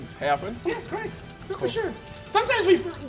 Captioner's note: dice rattling